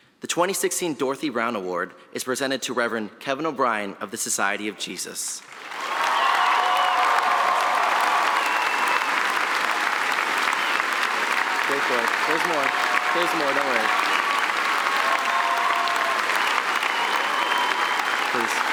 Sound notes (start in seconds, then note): 6.1 applause; 6.1 cheering